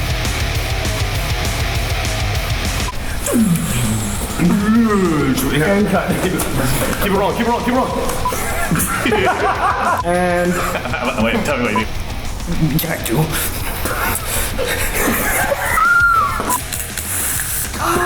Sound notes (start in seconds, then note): 3.1 fake slow motion sounds; 8.0 laughter